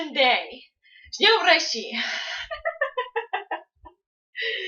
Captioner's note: says the same, but in Russian